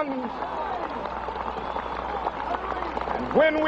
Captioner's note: crowd applauding